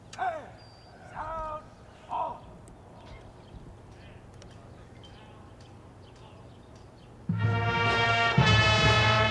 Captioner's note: shouted commands